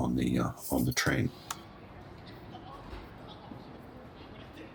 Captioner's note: background station noise